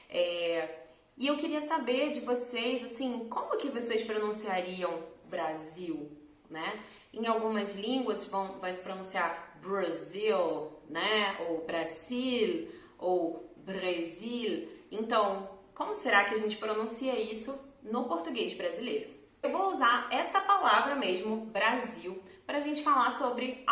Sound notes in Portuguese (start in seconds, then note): 12.7 espanhol; 14.7 francês